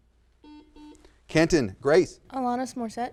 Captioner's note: buzzer sounds